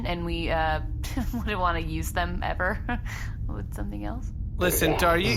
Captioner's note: awkward laugh